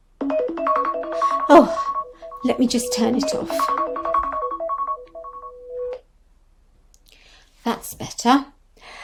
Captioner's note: alarm sound